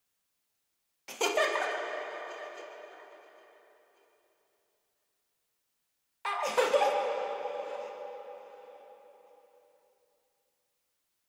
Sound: creepy girl laugh

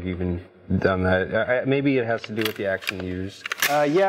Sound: gun clicking

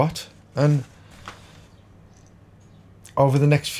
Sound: silence

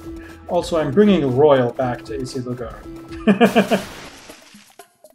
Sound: chuckles

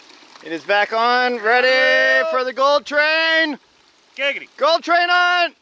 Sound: crew shouts

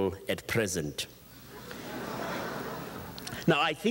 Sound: audience chuckles

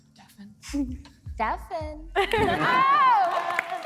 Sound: applause

